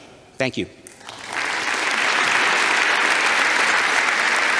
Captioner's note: audience applauds